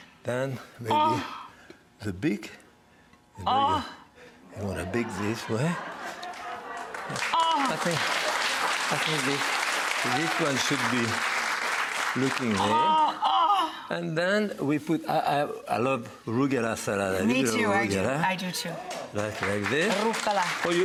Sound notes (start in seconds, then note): 3.4 exclaims; 4.6 audience laughs; 6.2 audience applauds; 13.4 gasps; 19.2 audience cheers